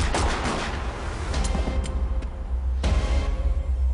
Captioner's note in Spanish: Disparos